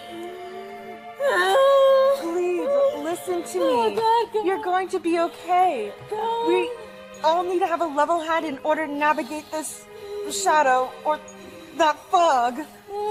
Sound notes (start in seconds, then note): 0.0 wails and mutters over